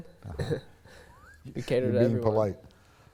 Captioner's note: chuckles